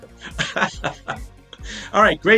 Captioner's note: laughing